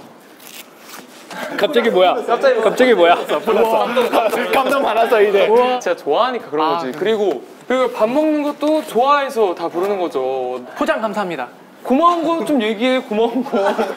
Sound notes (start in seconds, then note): 1.3 haha; 10.6 sassy